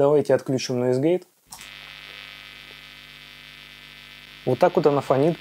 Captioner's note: Hum sound